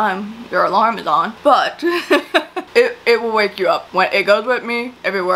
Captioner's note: laughs